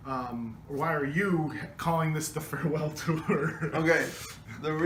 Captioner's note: laughs